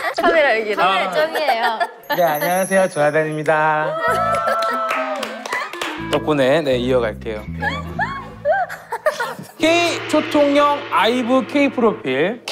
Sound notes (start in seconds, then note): 4.2 cheering; 7.6 giggling